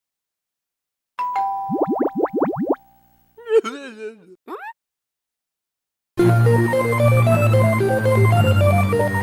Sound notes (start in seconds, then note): 1.2 Animal Crossing doorbell; 3.4 Sharkle Giggle